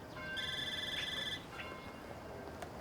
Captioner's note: Nanà's phone ringing